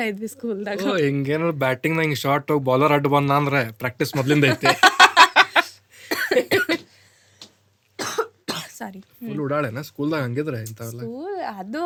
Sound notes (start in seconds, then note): 4.1 both laugh